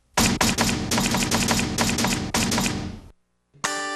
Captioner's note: typewriter clicking